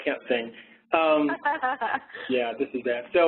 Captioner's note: laughter